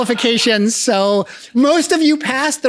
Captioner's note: laughs